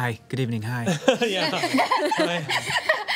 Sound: laughing

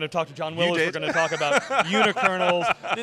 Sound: laughing

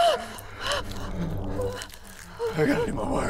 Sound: Isabella crying uncontrollably; flesh squishing, sticky

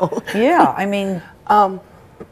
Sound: chuckles

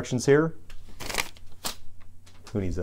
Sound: crumpling paper

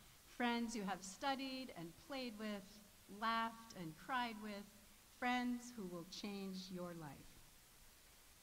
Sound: none

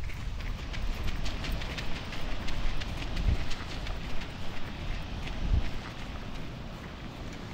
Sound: footsteps crunching on gravel path Wind rustling past; waves crashing in distance Running steps along gravel path; ocean waves crashing

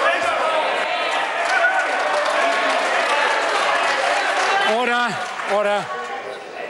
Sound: members cheer

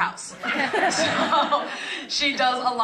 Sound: laugh

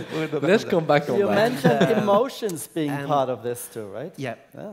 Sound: laugh

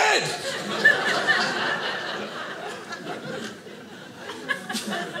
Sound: audience laughing

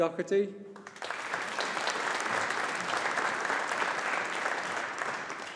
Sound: audience applauding

